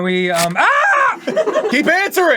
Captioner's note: fleshy rip; crew giggling